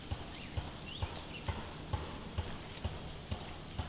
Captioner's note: pounding